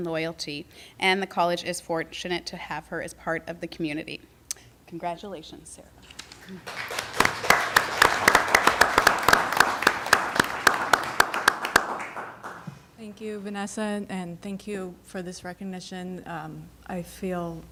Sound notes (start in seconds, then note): 4.7 applause